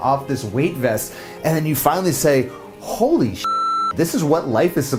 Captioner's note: beep